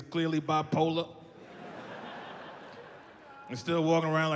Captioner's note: audience laughs